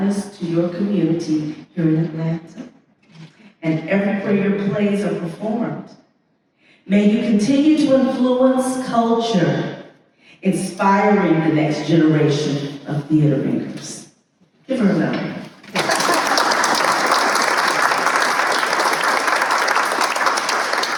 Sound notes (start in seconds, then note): 15.6 applause